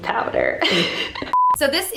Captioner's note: laughs softly; beep